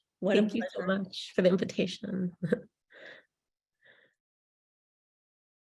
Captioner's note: chuckles